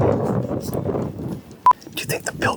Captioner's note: beeps